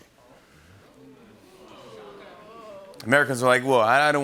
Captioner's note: audience groaning